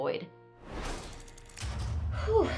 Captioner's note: screen whooshing